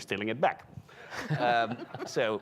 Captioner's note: people chuckling